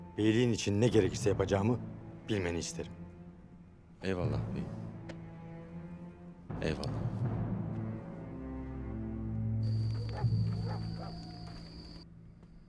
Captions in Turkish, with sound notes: Beyliğin için ne gerekirse yapacağımı bilmeni isterim. Eyvallah beyim. Eyvallah. (Köpek havlama sesi)